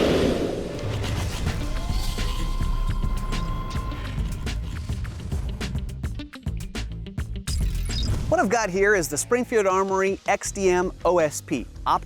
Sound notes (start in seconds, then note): 0.7 mechanical whirring